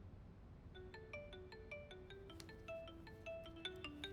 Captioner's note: mobile phone rings